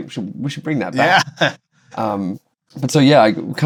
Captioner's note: laughter